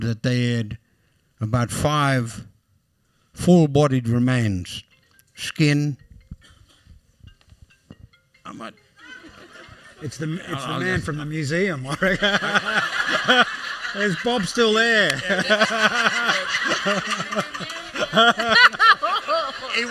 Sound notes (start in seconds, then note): 7.2 phone ringing; 12.0 laughs; 17.4 laughter